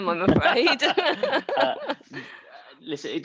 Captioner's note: all laughs